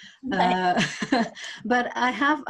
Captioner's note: laughs